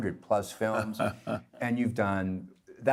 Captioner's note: laughing